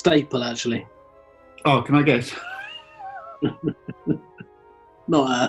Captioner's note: chuckling